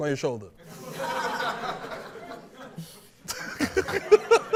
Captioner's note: laughter